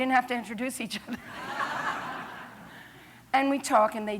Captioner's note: laughter